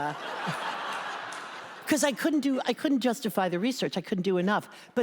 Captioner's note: laughter